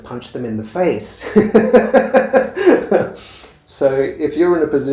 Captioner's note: laughing